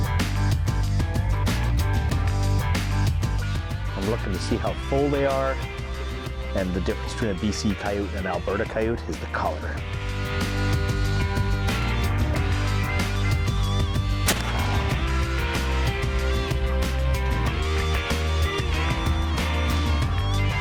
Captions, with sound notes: - I'm looking to see how full they are, and the difference between a DC Coyote and Alberta Coyote is the color. (upbeat bluesy music) (gunshot cracks) (upbeat bluesy music)